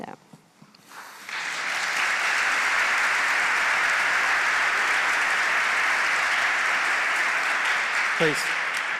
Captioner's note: applause